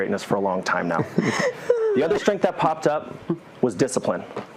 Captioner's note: laugh